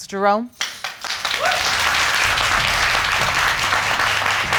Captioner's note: audience clapping and cheering